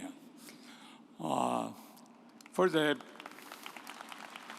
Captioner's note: audience applauds